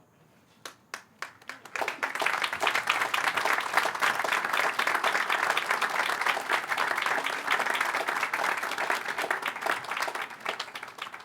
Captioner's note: applause